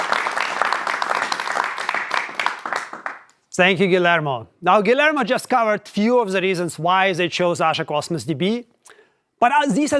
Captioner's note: applause